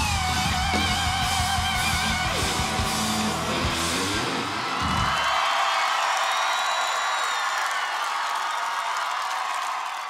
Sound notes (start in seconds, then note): 5.1 audience cheers